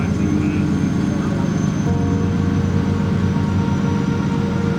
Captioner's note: overlapping chatter